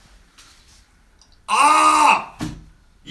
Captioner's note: screams